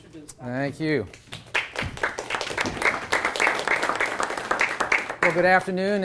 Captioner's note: applause